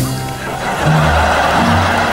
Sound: laughing

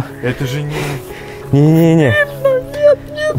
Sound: crying

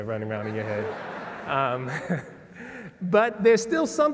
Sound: laugh

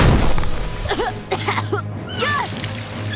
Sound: coughing

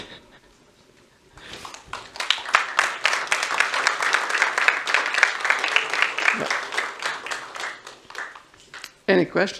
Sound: chuckles; applause

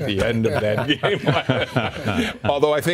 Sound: laughter

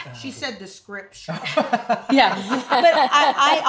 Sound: laughs

